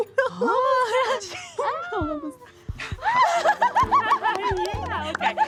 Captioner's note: speaking in foreign language; girls giggling